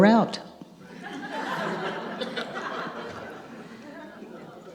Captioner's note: audience laughs